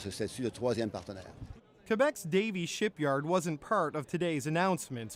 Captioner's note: speaking French